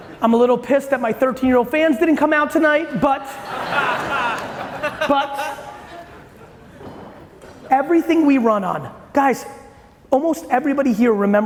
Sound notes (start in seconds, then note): 0.0 audience laughing loudly; 3.2 audience laughing